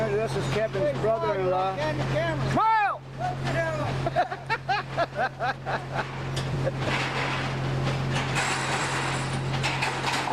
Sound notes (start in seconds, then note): 4.0 wonderful laughter